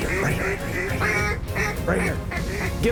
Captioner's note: duck calls